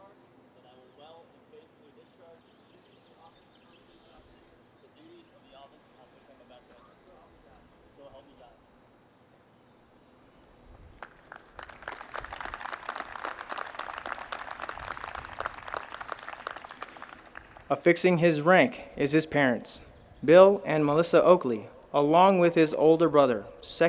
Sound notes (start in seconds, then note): 10.9 audience applauds